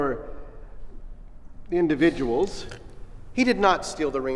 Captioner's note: Gloria chomping